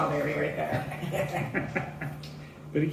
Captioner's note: laughter